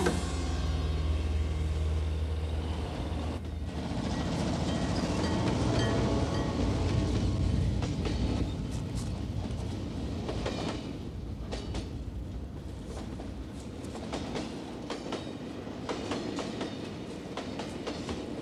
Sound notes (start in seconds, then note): 0.1 dramatic music; 3.6 train engine revving